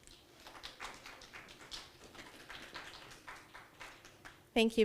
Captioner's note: audience applauding